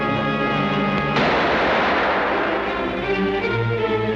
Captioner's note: gun fires